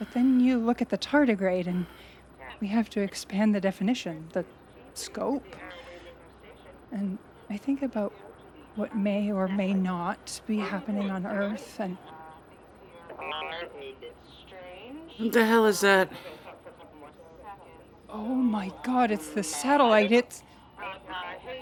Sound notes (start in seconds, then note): 12.8 DISTORTED VOICE: satellite. How you doing, satellite?; 16.9 DISTORTED VOICE: a bit strange